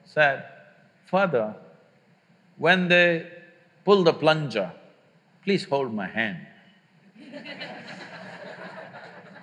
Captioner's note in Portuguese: Risos